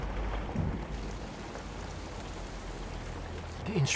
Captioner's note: pouring